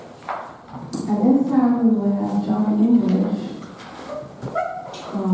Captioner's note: attendee chattering